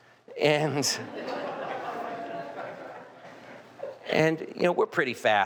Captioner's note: audience laughing